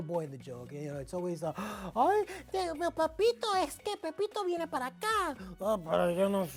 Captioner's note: speaking Spanish